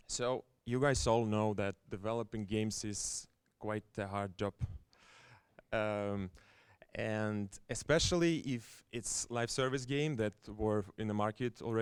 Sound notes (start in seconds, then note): none